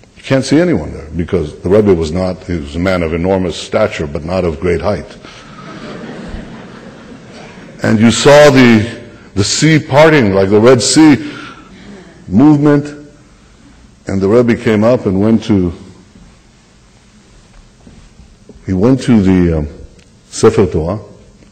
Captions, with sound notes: -- you can’t see anyone there, because the Rebbe was not -- he was a man of enormous stature, but not of great height. (laughter) And you saw the sea parting like the Red Sea. Movement, and the Rebbe came up and went to -- he went to the Sefer Torah,